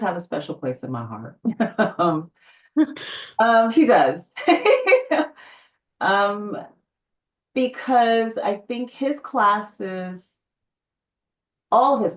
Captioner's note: laughs